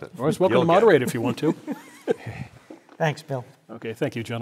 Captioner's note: laugh